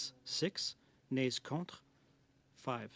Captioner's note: speaking French